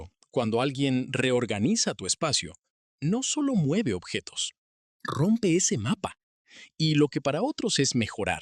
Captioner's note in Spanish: resoplido